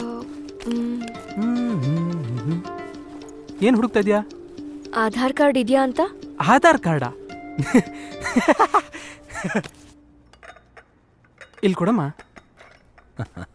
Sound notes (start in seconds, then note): 0.5 humming; 9.5 TV sound